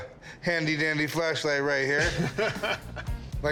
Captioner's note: laughs